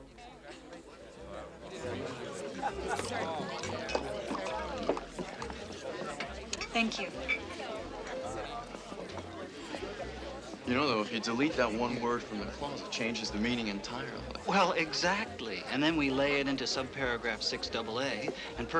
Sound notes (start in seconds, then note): 1.6 indistinct chatter